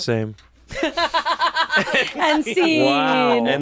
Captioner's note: laughs